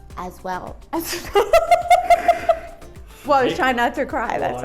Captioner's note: laughing